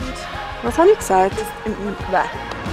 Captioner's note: in Swiss German